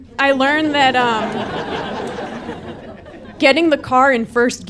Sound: audience laughing

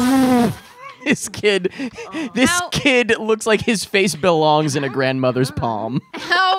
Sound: laughing

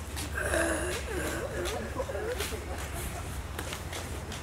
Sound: speaking in zombie

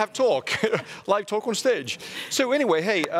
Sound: chuckles

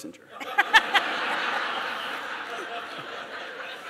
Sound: laughter

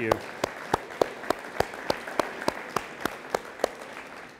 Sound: all applauding

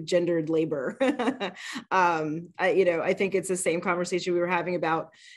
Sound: laughs

